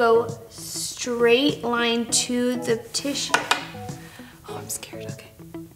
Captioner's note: taps makeup brush